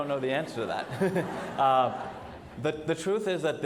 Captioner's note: audience laughs